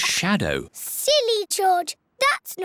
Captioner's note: none